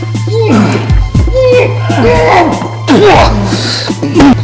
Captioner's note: grunts